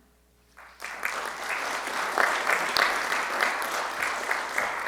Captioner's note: audience clapping